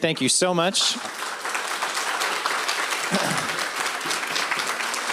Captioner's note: applause